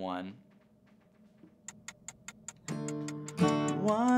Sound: timer ticking

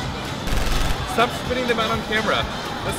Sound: more sounds of shots fired

